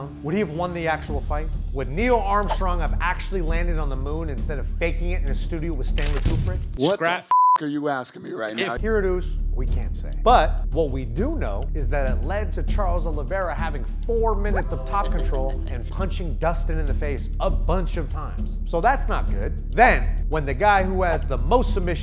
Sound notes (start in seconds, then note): 7.2 beep